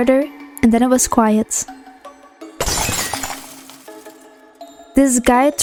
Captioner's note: broken window noise